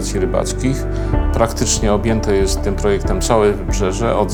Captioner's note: Polish